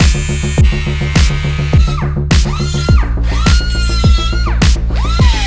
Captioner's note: upbeat music; tool whirrs